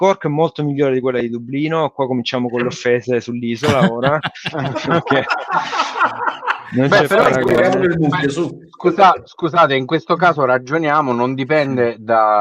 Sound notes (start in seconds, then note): 3.6 laughs